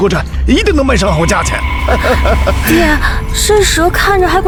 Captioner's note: laughs